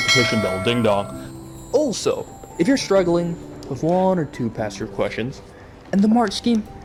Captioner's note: ding dong